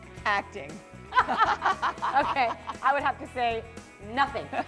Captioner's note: laughter